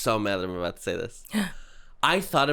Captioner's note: gasp